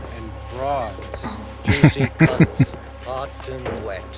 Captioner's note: chuckling